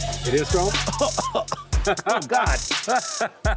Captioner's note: laughs; coughs